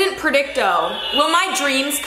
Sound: whirring

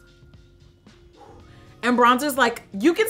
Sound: blows

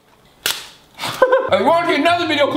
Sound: laughs

